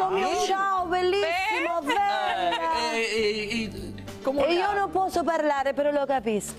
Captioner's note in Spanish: risas